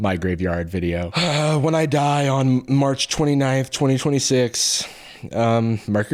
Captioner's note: sigh